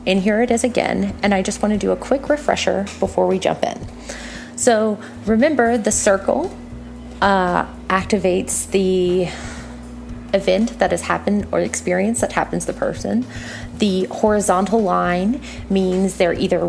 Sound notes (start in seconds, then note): 8.6 sigh; 13.3 breathe in